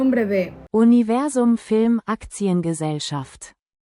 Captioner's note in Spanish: palabras en alemán